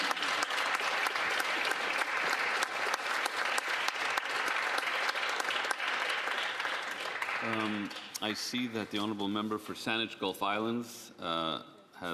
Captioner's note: applause